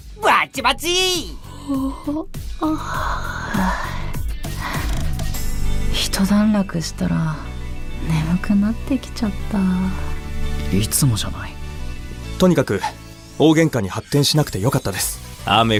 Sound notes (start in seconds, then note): 1.2 yawn